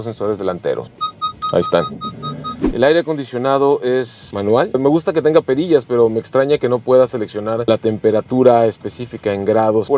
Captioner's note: alarm beeping